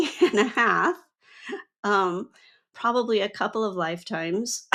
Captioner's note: laughs